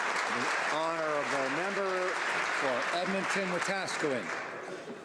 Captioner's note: applause